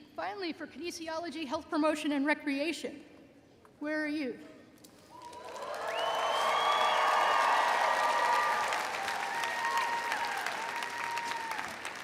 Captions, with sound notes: Finally, for Kinesiology Health Promotion and Recreation, where are you? (audience cheering)